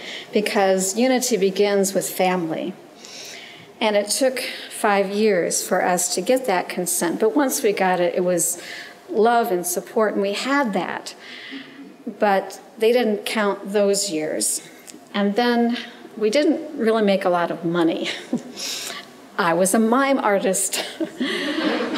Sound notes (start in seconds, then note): 17.7 chuckles; 20.8 chuckles; 21.0 audience chuckles